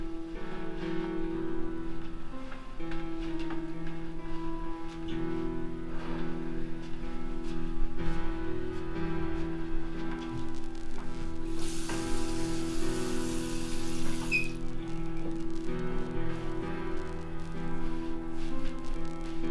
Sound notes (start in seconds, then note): 10.4 lights buzzing; 10.6 water rushing; 16.1 somber piano music